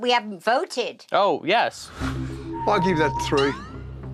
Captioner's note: whistling